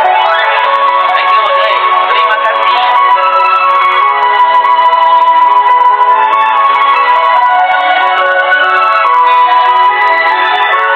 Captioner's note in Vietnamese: Vỗ tay